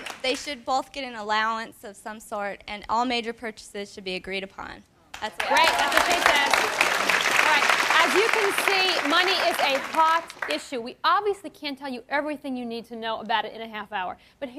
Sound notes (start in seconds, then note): 5.1 audience claps